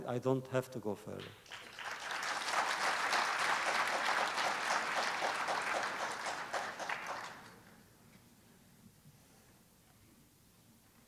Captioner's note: applause